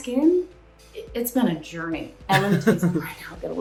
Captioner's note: laughing